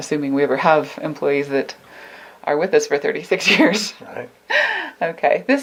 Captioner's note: laughs